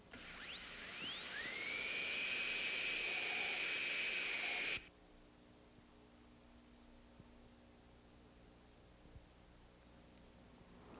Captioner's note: drilling sound